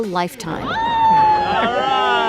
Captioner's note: girl screams